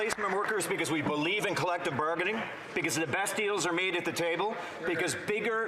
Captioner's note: some Applause